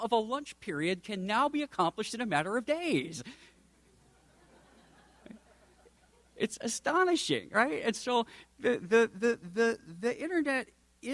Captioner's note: audience snickers